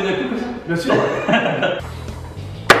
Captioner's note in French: rire